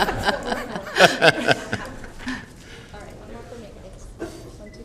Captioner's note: laughter